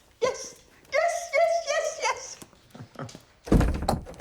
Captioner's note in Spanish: risas